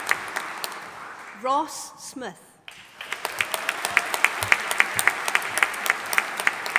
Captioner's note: audience applauding